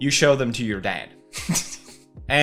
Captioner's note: laughing in embarrassment